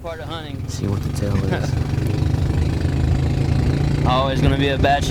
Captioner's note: motor rumbling